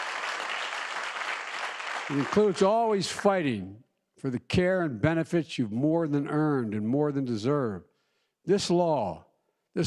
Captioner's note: applause